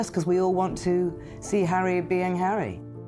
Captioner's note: none